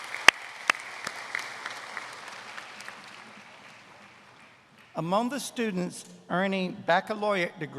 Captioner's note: applause